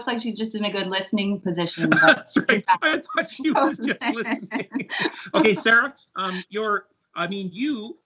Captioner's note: laughs